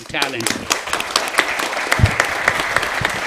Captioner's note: applause